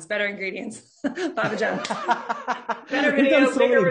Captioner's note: laughing loudly